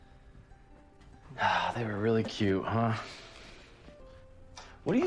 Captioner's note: sighs